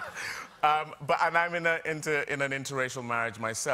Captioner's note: laughter